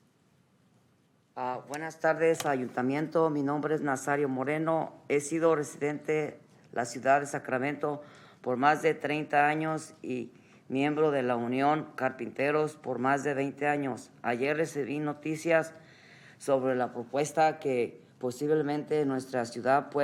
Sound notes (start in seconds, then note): 7.3 speaking Spanish